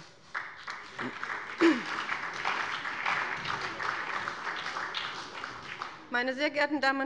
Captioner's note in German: Beifall bei dem BÜNDNIS 90/DIE GRÜNEN und der CDU